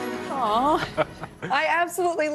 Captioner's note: laughter